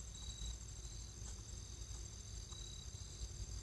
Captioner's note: crickets